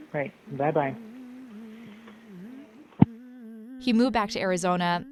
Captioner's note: woman humming